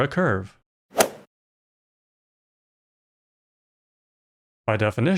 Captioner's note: golf ball hit sound